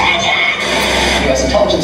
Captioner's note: TV Static